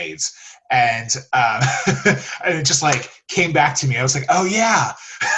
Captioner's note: laughs